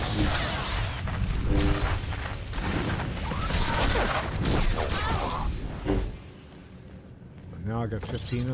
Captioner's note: gunfire; gunfire